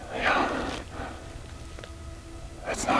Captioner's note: elk bugling